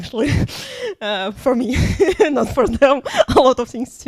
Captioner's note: laughs